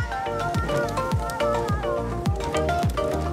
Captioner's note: babbles happily; upbeat music continues